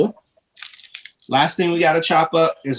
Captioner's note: shallot peel rustling